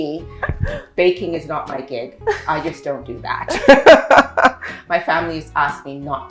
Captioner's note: laughing